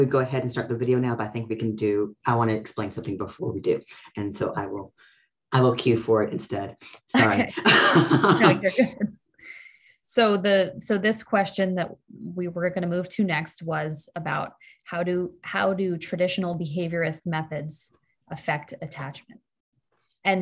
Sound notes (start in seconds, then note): 7.3 laughs